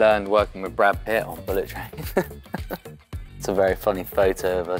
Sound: laughs

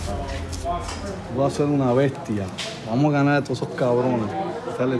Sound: speaking spanish

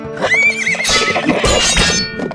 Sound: neigh; swords clashing

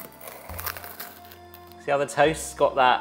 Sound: bread crunching

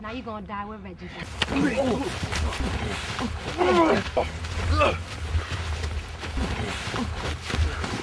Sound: FIGHTING & grunting

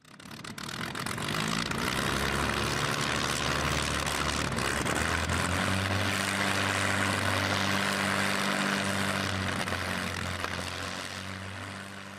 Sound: aircraft engine starting and fading into the distance

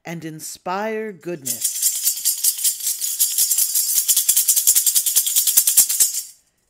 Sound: sistrum rattles

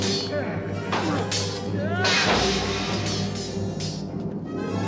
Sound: yelling; clinking

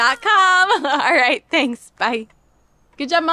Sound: laughs

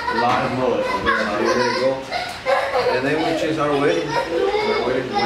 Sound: little girl laughing

